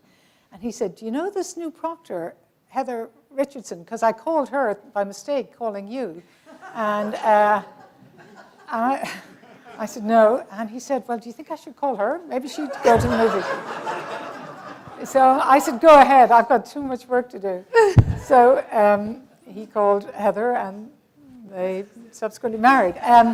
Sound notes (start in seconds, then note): 12.6 laughter